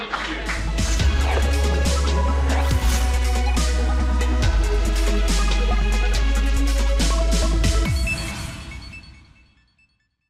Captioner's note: applause